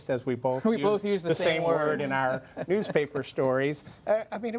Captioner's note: laughter